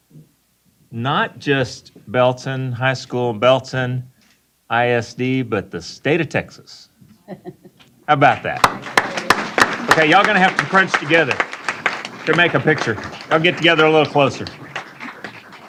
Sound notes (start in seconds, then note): 8.6 applause